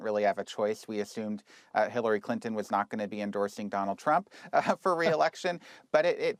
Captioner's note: laughs